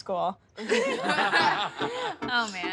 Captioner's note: laughing